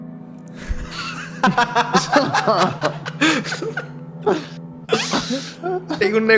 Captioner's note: everyone laughs